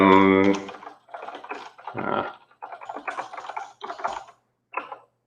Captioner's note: keyboard clattering